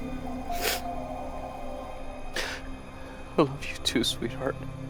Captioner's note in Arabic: يشهق ناثان